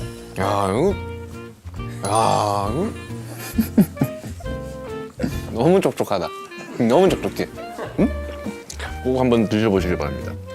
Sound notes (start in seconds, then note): 3.2 haha